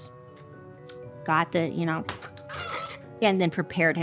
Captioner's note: rooster croaking